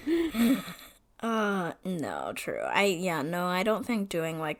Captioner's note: laughs